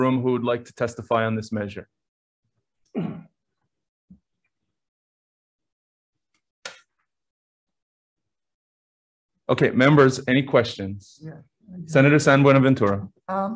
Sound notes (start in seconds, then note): 2.9 clears throat; 3.8 silence